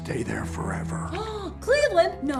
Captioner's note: Dory gasps